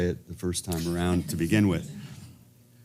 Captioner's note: laugh